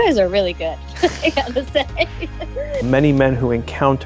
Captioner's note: laughs